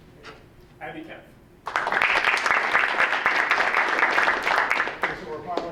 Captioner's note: audience applauding